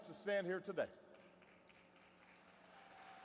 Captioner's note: applause